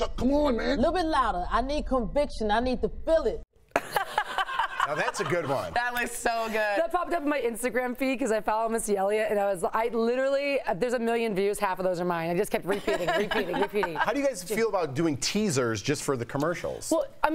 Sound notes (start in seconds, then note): 8.4 laughter